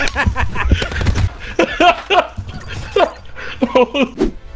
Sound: laughing; laughing continues

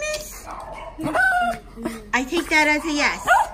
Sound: dog whines

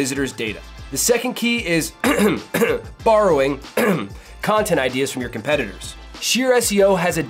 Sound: cough

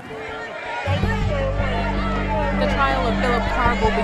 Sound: crowd clamoring

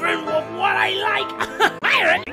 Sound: random laugher

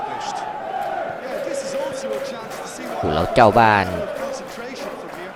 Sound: applause

